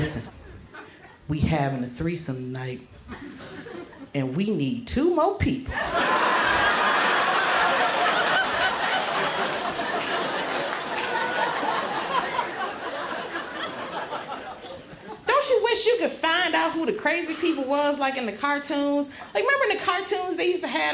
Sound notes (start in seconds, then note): 0.2 in a lower voice; 5.7 laughter erupts